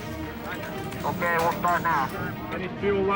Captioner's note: male voice over radio